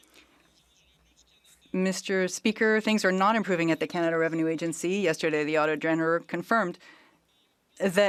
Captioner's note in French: voix de l'interprète